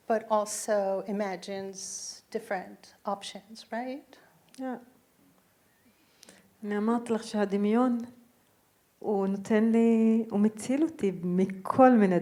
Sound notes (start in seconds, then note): 6.8 speaking in foreign language